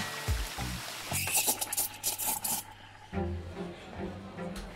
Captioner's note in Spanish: sonido de cafetera; ruido de rociadores activados